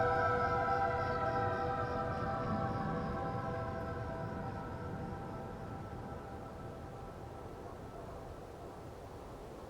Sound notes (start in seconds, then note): 0.0 ethereal music fades; 0.0 police siren in the distance; 4.3 wind whooshing